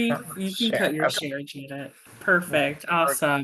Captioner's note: faintly speaking